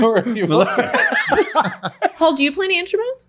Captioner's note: laughing